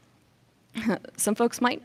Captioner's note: chuckles